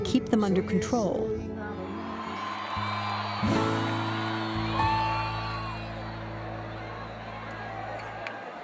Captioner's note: cheering and applause